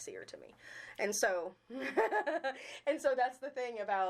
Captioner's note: chuckling